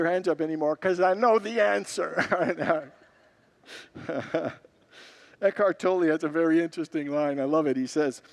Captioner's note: congregants laugh